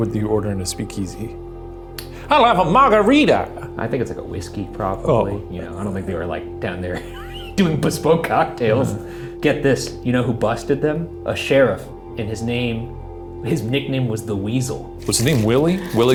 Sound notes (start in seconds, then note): 6.9 laughs